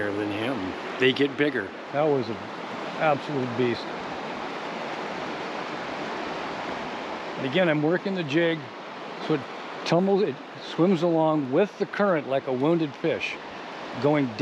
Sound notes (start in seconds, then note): 6.3 water flowing